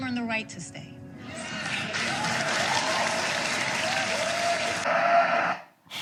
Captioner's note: crowd cheers and claps